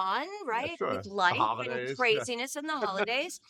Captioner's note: laughing